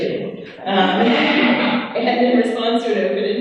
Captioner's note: laughing